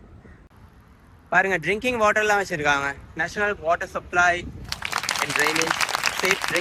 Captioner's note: cheering